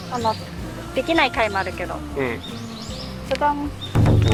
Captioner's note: shooting